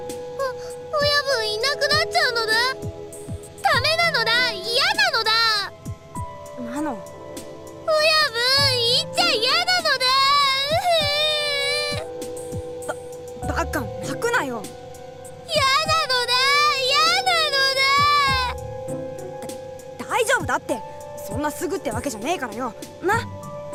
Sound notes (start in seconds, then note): 11.6 sob; 16.9 blubbering